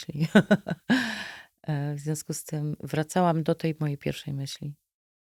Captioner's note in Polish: śmiech; wciągnięcie powietrza